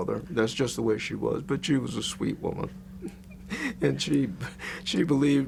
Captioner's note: laughs